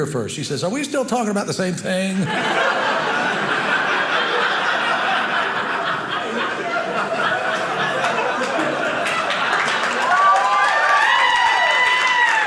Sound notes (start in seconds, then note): 2.2 audience laughing; 9.3 audience cheering; 12.2 audience applauding